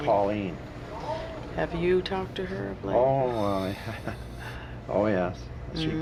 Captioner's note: chuckles